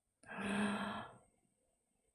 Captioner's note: inhales